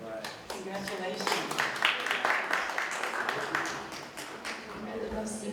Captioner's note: applause